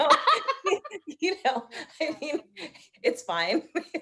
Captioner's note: both laughing